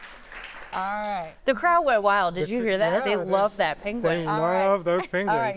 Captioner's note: applause